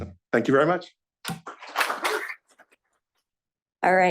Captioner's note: applause